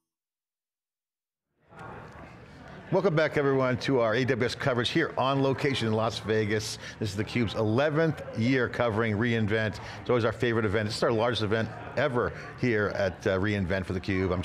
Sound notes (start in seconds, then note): 1.6 crowd chattering